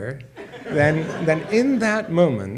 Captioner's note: audience laughs